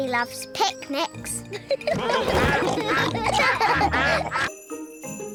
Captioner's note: all giggle; quacking